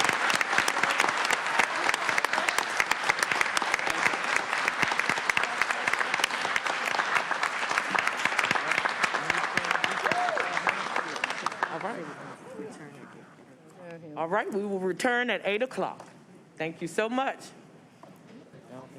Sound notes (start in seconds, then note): 0.0 applause